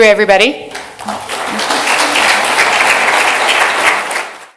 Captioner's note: applause